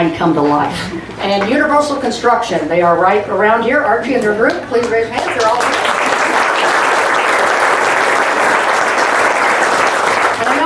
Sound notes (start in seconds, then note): 6.3 audience claps